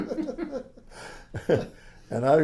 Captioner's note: laughs